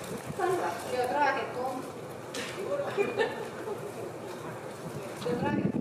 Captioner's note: speaking in foreign language